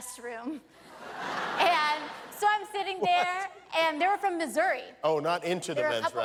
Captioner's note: laughter